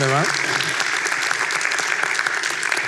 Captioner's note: applause